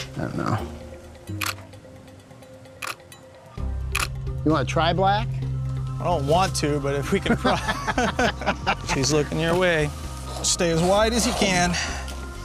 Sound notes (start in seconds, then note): 1.3 camera clicks; 3.9 camera clicks; 7.2 laughing